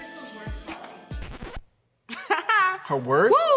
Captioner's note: record scratch